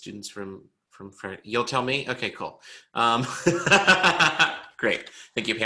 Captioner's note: laughs